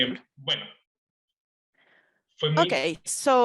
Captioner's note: speaking foreign language